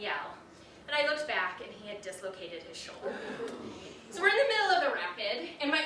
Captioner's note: audience gasps